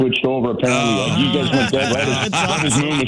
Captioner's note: laughing